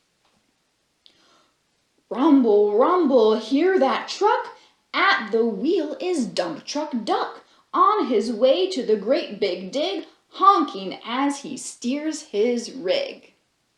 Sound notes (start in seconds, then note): none